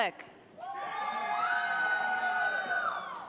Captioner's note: cheering